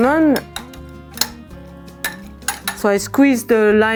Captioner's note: spoon clacking